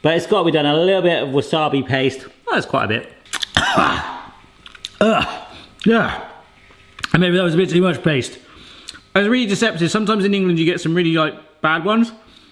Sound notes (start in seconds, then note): 3.4 coughs